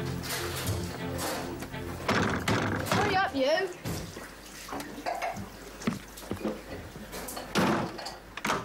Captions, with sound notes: (boy knocking) - Hurry up you.